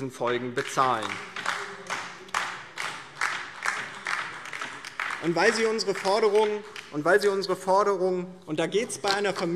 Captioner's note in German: Beifall